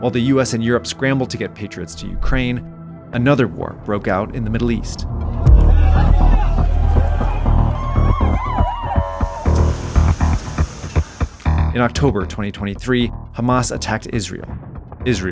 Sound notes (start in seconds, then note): 5.2 crowd yelling; 5.5 suspenseful music; 8.1 sirens wailing; 8.1 suspenseful music